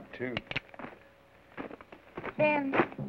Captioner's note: gun cocks